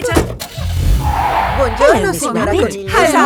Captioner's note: car starting; tires screeching